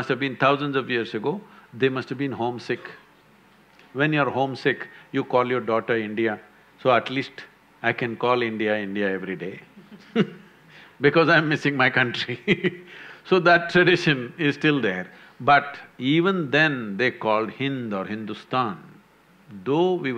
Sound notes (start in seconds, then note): 9.7 laughs